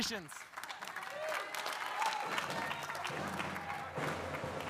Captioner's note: audience applauding; upbeat collegiate music